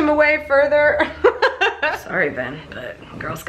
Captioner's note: laughs